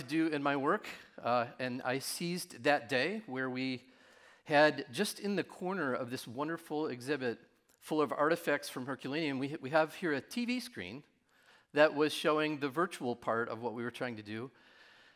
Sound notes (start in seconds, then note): none